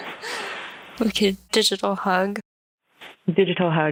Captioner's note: laughs